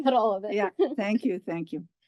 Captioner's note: laugh